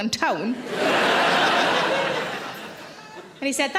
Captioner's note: audience laughs